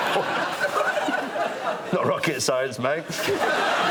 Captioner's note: laughter